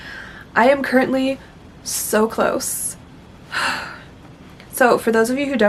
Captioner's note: sigh